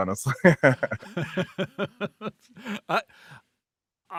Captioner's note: laughing